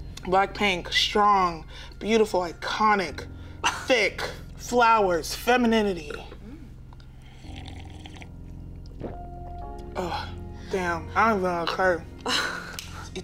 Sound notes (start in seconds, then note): 0.0 tense music; 6.6 slurping lightly